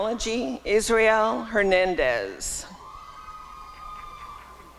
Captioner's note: applause and cheering